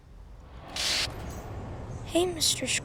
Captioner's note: static crackles